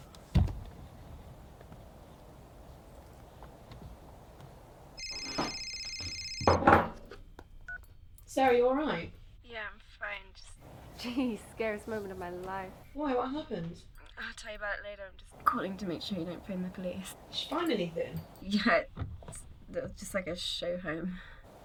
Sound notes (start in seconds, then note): 4.6 phone ringing; 7.4 phone beeping